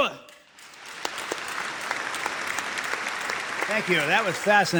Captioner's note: audience claps